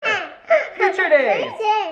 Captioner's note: baby laughing